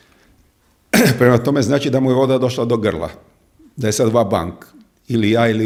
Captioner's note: he coughs